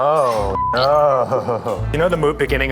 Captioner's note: beep